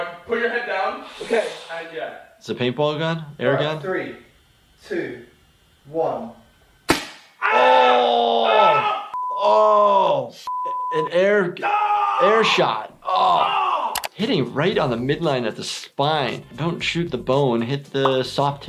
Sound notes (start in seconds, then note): 6.8 paintball gun fires; 7.4 screaming; 10.4 beep; 11.6 screaming